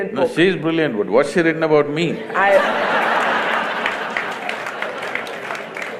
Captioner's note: laughter/Applause; 笑聲/掌聲